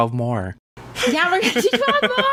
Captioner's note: laughs